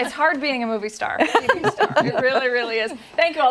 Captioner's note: laughter